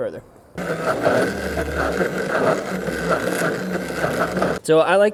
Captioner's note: blender whirring